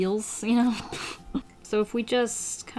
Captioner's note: chuckles